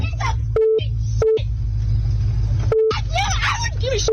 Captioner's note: beep